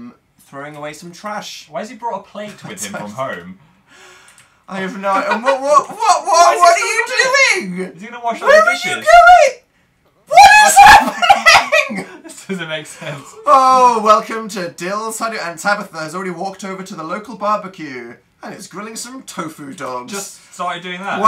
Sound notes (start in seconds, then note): 2.9 laughs; 4.9 laughs; 8.4 high pitched; 10.3 progressively higher voice; 10.4 laughs